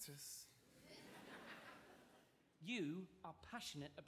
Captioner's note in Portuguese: audience laughing